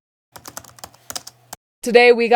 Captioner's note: keyboard tapping